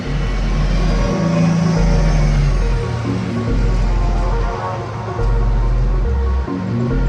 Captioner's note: pensive music; traffic passes